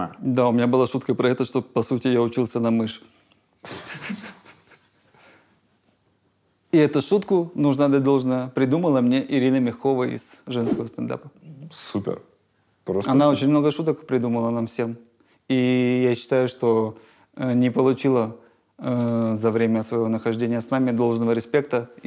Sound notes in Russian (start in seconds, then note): 3.7 смеется